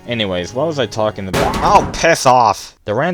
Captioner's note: scream from in game